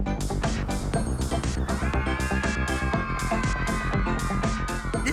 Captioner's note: crowd cheering